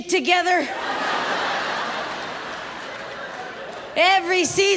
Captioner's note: audience laughs